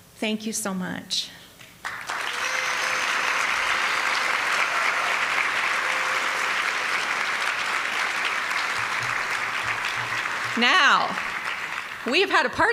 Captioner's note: applause